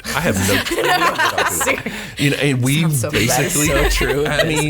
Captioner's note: laughs